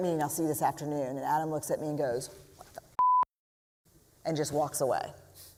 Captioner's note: quietly